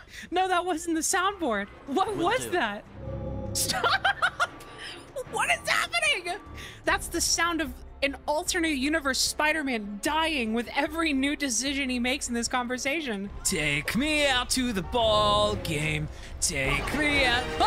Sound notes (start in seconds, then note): 2.7 ominous sound; 3.6 laughing